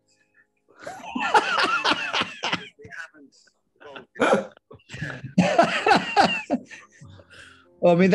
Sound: laughter

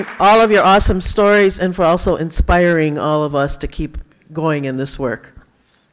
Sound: applause

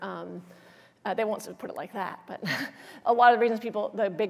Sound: laughs

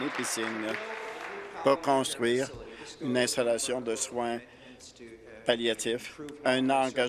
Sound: applause

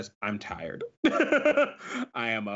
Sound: laughs

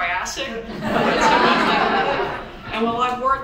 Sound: audience chuckles

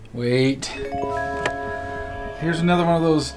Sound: bells chiming

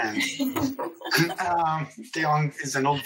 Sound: laughing

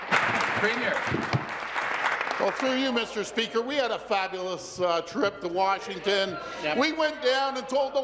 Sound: applause

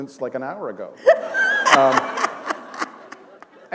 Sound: laughter

